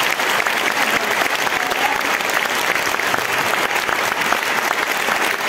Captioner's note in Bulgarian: аплодисменти